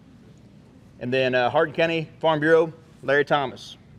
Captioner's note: none